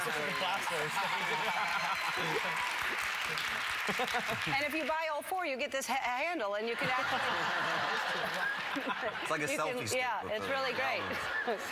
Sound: cheers and applause; laughter

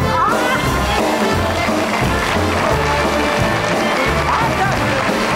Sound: upbeat jazz music; audience applauding

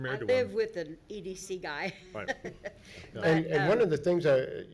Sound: laughing

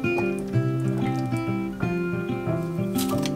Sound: boiling

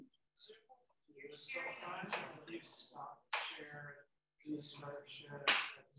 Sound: speaking away from the mic

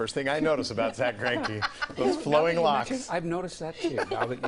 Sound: laughter

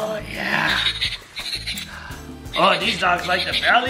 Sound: balloon sounds

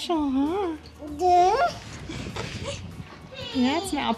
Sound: baby babble

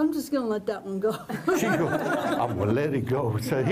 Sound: laughter

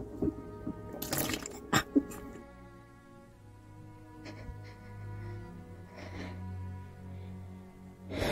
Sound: heavy breathing; cough cough

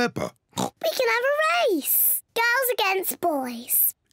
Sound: oinks

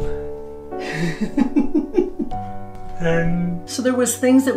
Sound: laughing

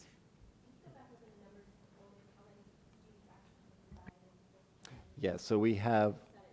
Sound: board member faintly speaking

